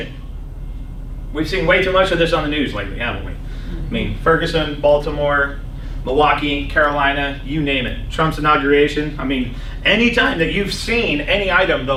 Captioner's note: laughs